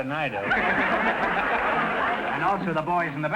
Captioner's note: audience laughter